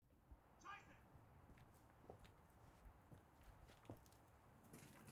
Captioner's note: shouting in German